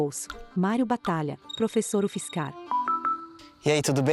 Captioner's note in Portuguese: Celular tocando